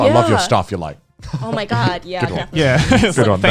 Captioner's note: laughs